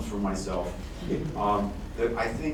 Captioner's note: laughter